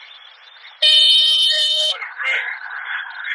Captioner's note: landing gear horn caused by turbulence